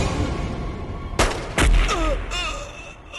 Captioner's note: gun Firing